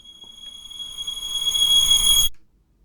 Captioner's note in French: Sifflement